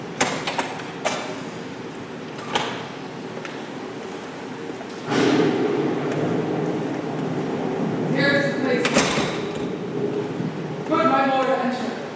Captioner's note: Door opens offscreen. Storm returns. Thunder crashes